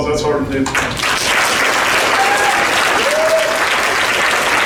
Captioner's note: crowd applauds